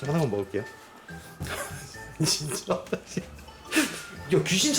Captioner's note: laugh